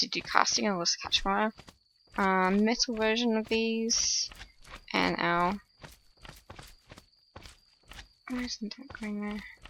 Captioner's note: slimes jumping in the background